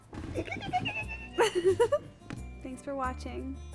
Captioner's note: Tiffany squeaking; Esther laughs